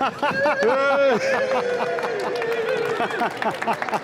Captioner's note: cheering and clapping